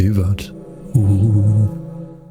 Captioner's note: extremely scary vocalization